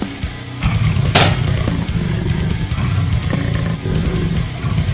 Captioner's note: legs clank